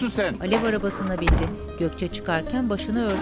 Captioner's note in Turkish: Kapı kapanma sesi